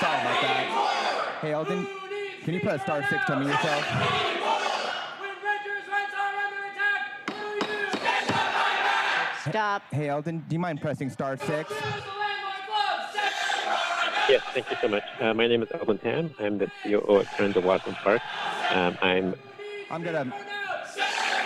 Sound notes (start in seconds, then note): 9.8 crowd chanting